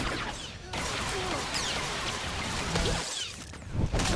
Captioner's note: gun firing